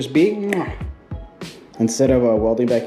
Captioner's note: clicking tongue